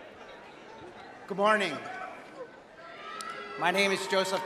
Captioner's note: cheers